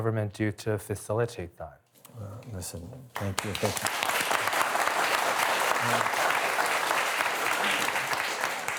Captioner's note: applause